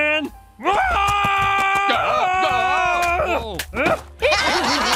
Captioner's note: screaming; laughter